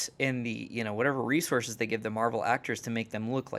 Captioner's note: none